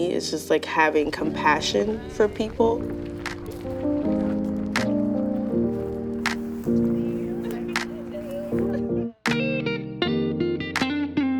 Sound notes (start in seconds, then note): 3.4 gentle music continues; 3.4 rhythmic clapping